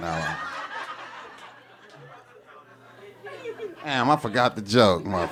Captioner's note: audience laughing